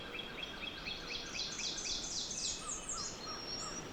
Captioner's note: birds tweeting